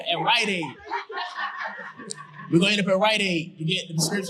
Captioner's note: audience laughing